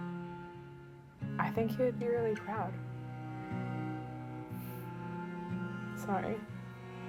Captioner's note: gentle music continues; breathes deeply